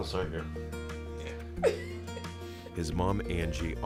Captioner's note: chuckling